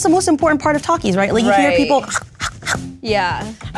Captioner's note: chomping